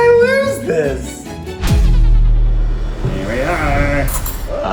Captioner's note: whoosh